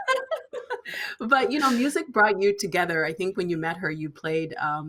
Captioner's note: laughing